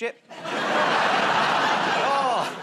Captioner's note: laughter